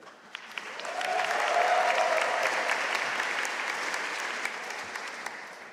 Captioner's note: audience cheering and applauding